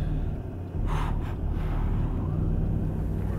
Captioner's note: tense breathing